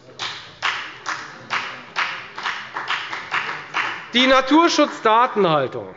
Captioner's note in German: Beifall bei der FDP